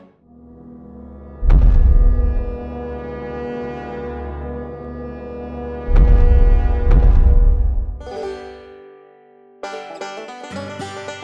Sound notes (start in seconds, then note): 0.1 tense orchestral music; 1.9 loud, thumping footsteps; 7.9 bright banjo music